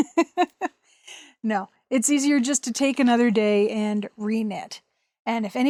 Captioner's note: laughs